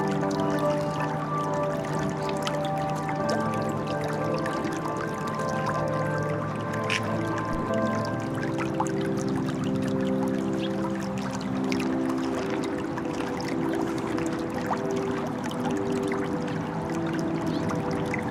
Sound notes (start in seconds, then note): 0.2 serene music; 8.5 water running